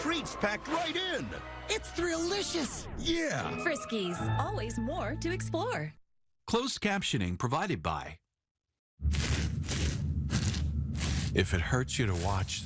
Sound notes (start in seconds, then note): 9.1 scratching sounds